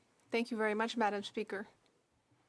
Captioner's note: speaking FRENCH